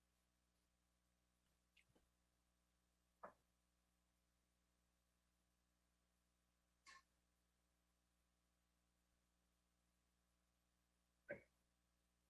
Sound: silence

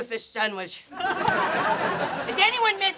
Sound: laughing

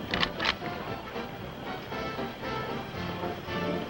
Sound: gun cocks

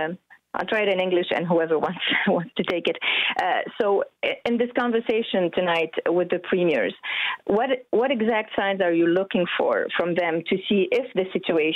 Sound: speaking french

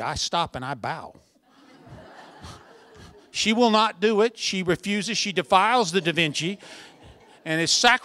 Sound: laughter

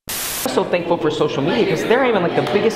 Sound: electronic hip hop music; static cackles

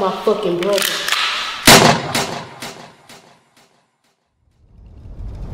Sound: gun shots firing

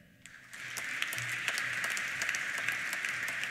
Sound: applause

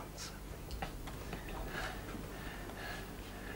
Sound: panting

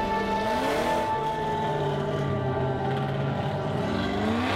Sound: engine roaring

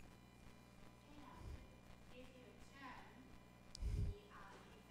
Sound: squelching

